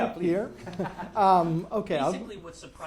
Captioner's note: attendees laughing